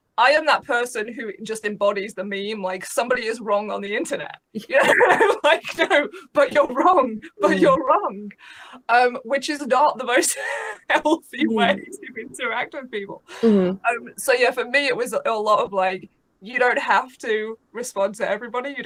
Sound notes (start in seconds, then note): 4.7 laughs